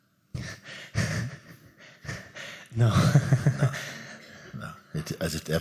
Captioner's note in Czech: smích